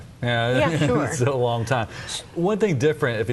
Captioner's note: laughs